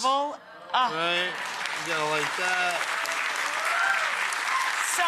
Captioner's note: audience applauding